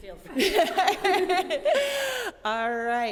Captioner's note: laughing